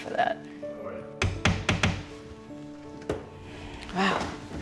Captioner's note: hammering